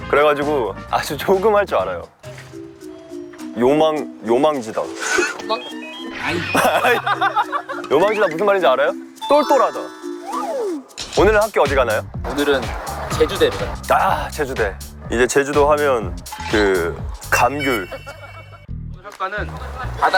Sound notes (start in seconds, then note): 10.2 haha